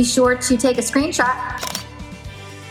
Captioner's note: camera shutters; upbeat music